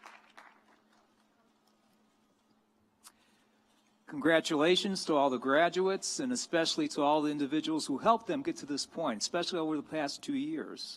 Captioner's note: applause